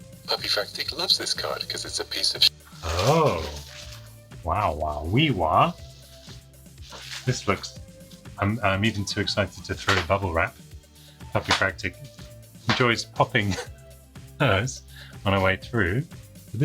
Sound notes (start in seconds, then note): 3.8 speaks gibberish